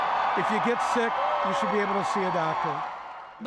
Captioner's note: cheers and Applause